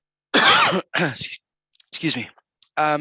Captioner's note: coughs